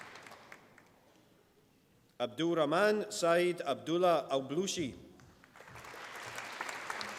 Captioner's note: applause